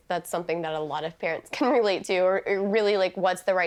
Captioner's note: chuckling